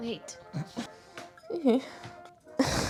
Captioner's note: weird goblin noises